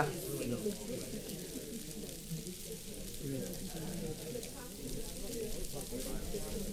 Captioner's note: paper crinkling and audience chattering